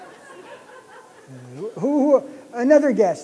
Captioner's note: laughter